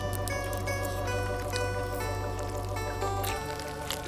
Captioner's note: flesh squishing